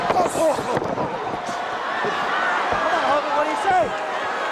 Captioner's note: Hogan groans